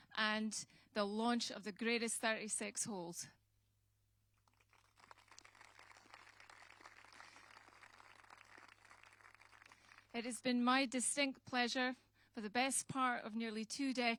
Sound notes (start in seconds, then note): 4.4 applause